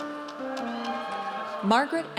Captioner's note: audience cheers